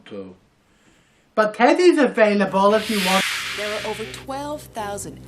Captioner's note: whoosh